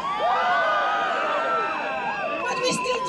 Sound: crowd cheering; whistle blowing

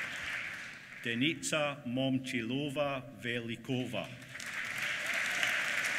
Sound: applause

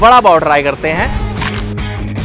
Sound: munching

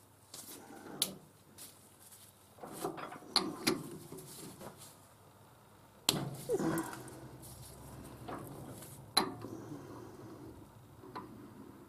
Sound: mechanical noise

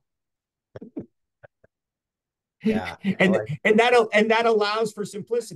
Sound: laughing

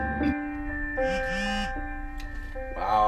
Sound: piano music playing; phone vibrating; piano music playing

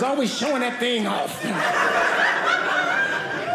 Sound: audience laughing

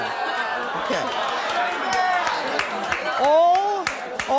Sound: audience clapping

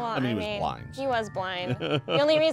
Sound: laughs

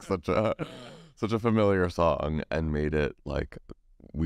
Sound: laughs

